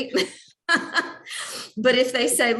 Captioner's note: laughs